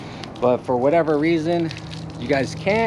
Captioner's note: water pattering